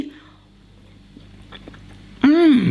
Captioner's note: chewing